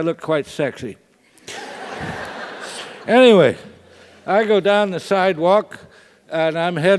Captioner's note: laugh